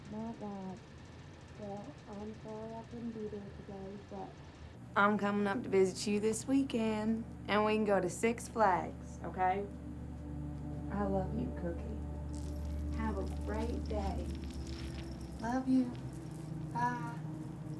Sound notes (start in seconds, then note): 13.6 beads rattling